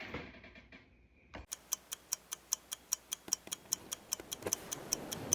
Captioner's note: ticking